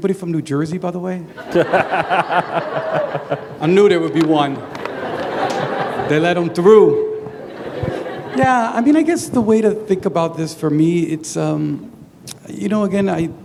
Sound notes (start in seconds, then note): 1.3 laughter